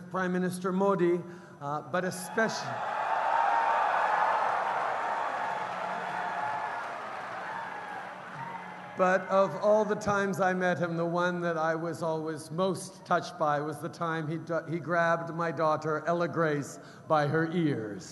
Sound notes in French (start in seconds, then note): 2.2 Acclamations délirantes et applaudissements